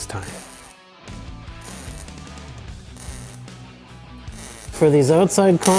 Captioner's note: intense rock music; tool whirring